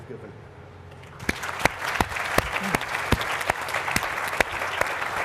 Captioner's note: applause